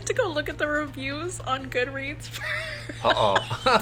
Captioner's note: laughs